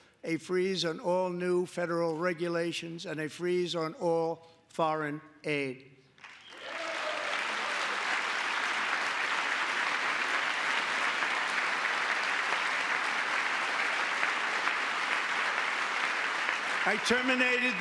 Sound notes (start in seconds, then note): 16.8 applause; 16.8 cheering